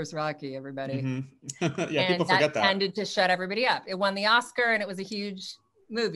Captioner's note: laughs